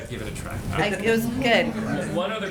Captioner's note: laughter